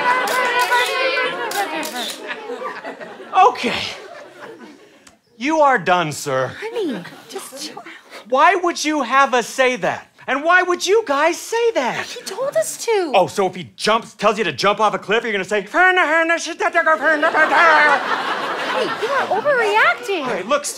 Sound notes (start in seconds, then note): 15.9 mumbling incoherently